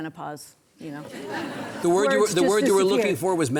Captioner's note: audience laughing